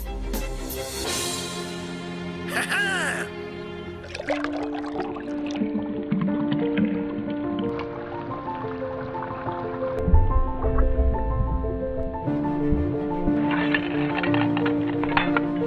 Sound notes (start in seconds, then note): 0.1 upbeat music; 2.5 laughing; 3.9 uplifting music